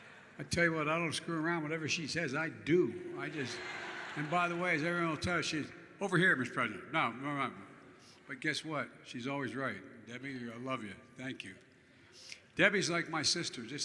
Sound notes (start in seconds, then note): 3.3 laughter